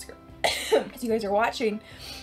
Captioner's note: coughing